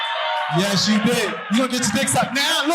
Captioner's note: audience laughing